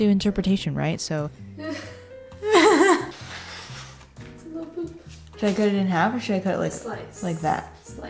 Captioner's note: laughing